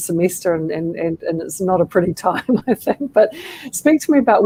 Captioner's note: laughter